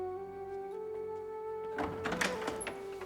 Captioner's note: doors open